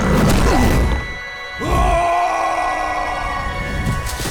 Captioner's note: screaming